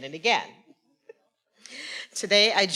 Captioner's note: faculty member speaking faintly